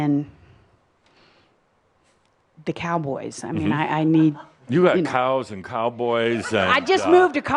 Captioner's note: laughter